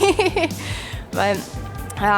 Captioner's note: laughter